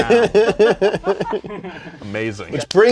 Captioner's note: laughter